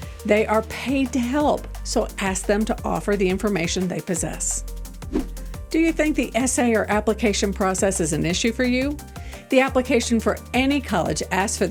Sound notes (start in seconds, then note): 4.8 upbeat music; 5.0 transition whooshing